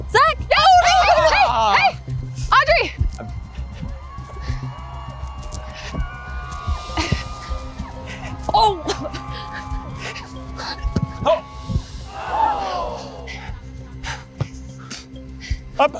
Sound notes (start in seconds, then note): 2.9 quiet, dramatic music; 7.2 panting; 12.2 sounds of disappointment